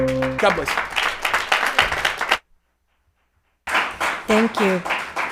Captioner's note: crowd applauding